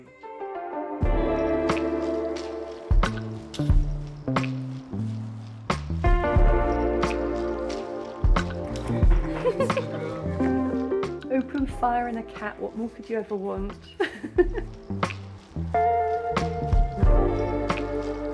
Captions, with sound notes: [chill music] [giggling] Open fire and a cat. What more could you ever want? [laughing] [chill music]